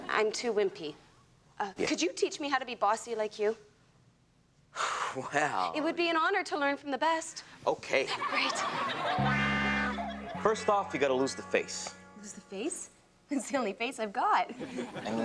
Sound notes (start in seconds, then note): 8.0 audience laughs; 8.9 gentle lilting music